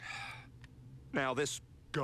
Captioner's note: sighs